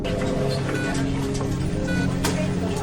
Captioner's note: monitor beeping; phone ringing